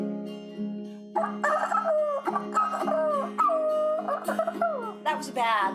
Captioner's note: imitating rooster